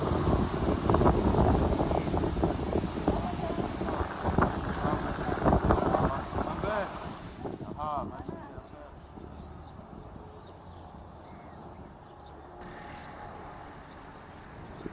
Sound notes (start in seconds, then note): 3.2 non-english speech